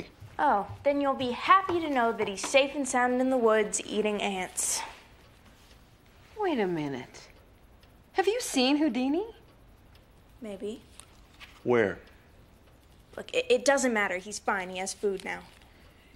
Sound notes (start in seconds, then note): none